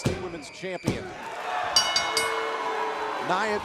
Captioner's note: bell ringing